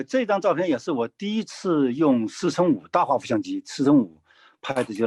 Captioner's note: speaking in foreign language